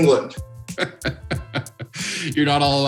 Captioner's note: laughing